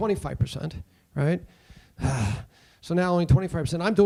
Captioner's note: groans